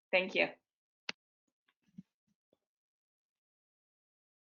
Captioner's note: silence